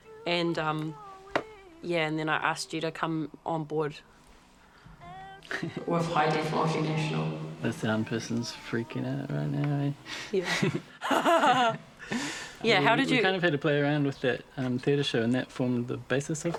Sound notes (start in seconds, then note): 10.1 chuckles; 10.4 both chuckle